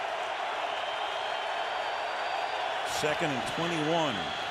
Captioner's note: crowd cheering